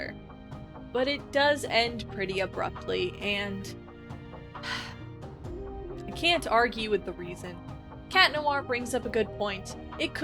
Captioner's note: sigh